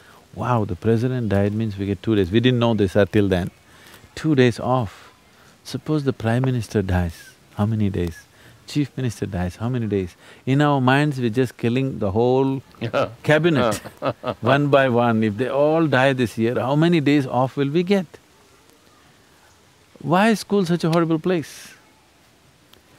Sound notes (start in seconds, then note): 12.8 Shekhar laughs